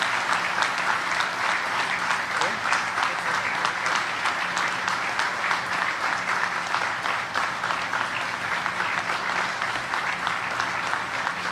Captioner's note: applause